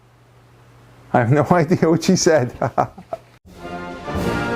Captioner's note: ha, ha